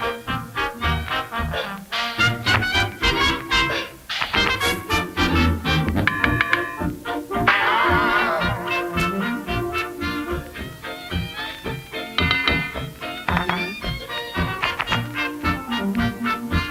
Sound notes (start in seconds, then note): 0.1 playful music; 5.8 tapping